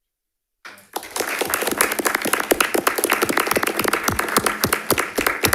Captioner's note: audience applauding